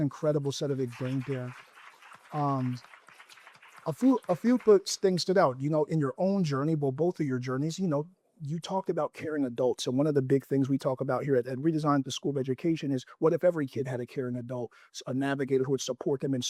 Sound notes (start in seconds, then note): 1.9 applause